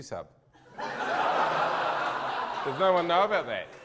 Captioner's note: audience laughter